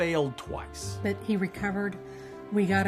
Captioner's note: voiceover